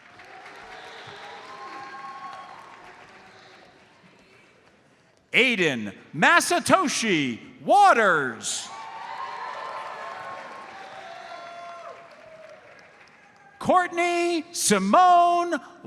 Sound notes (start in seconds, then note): 0.0 audience applauds; 8.6 audience cheers and applauds